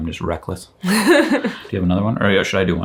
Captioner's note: chuckles